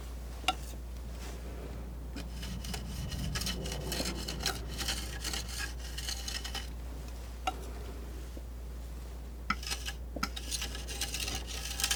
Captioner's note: tapping